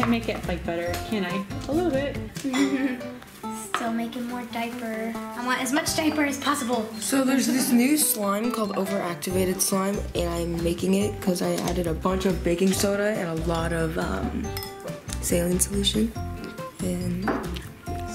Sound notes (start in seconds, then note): 2.4 giggling